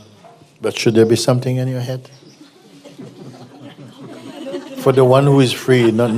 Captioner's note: laughter